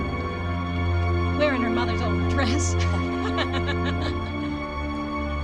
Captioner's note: giggling